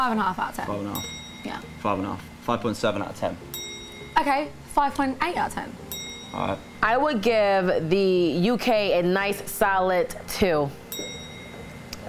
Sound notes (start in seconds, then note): 0.9 bell dings; 3.4 bell dings; 10.9 bell dings